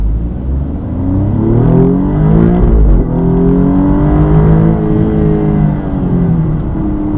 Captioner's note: acceleration noises